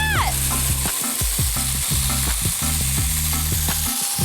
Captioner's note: chainsaw whirring